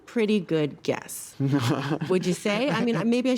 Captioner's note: laughs